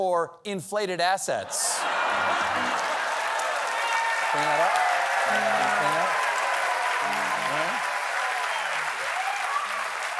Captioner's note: cheers and applause